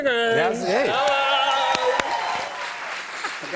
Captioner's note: cheers and applause